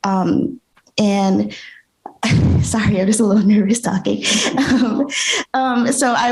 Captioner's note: laughs